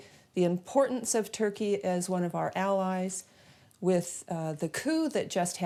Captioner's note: none